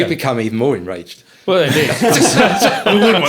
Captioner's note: all laughing